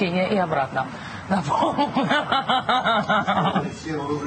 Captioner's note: holds back laughter; breaks into laughter